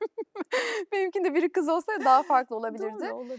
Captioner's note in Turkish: kahkaha